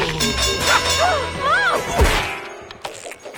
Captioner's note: bell ringing; crashing; screaming